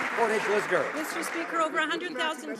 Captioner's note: some Applause